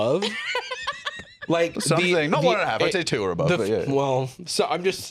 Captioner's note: laughs